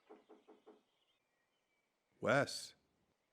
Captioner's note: Wes knocks on door